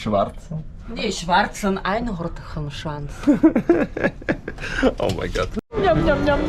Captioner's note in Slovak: smiech